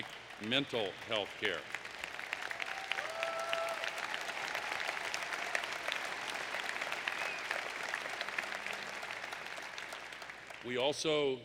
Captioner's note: applause